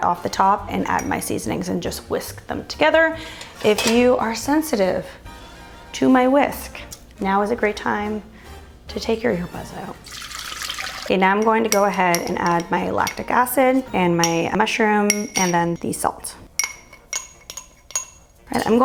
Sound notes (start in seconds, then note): 10.0 liquid pouring; 16.6 glass tin clatters